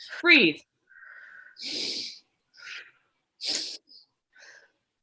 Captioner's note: deep Breathing